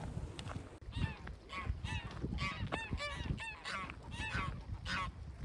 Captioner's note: geese calling